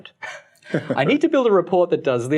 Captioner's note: laughing